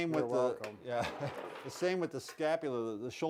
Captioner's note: chuckles